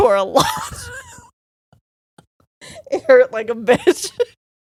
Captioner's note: both laughing